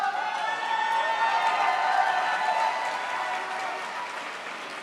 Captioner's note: audience cheers